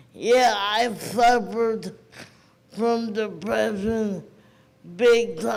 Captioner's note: none